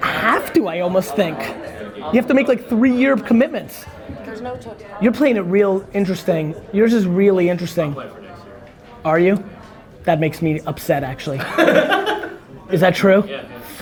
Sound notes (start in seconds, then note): 11.3 group laughter